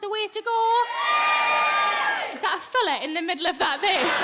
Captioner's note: audience loud cheering